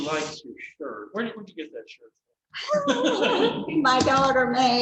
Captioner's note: laughter